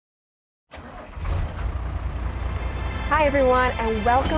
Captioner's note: engine rumbling